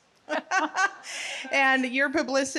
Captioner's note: laughing together